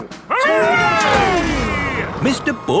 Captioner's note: all cheering